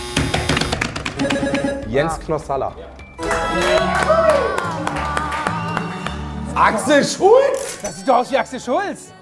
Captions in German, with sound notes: Jens Knossalla. (Jubel) Axel Schultz? - Das sieht aus wie er!